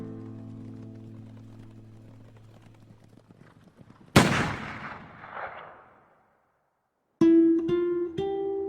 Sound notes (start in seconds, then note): 4.1 gun firing; 7.2 light acoustic guitar music